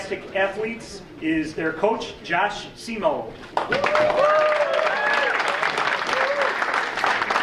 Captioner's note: audience cheering